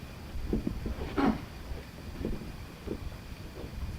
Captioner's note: speaking in foreign language; speaking foreign language